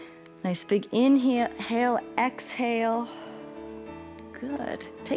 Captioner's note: exhales